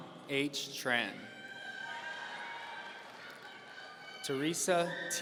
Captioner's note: audience cheering